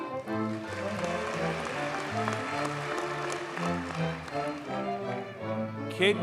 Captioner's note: audience cheers and applauds